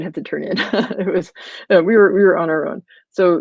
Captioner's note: laughs